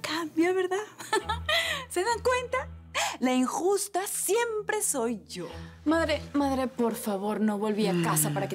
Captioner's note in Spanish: Risas